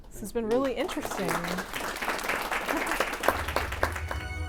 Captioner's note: applause